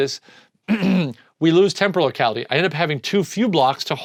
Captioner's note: clears throat